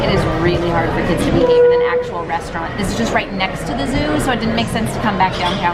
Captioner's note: none